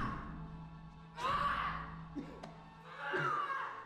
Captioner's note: yelling